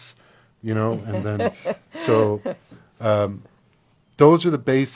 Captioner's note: laughs